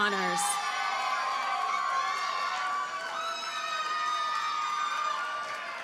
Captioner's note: audience cheers and applauds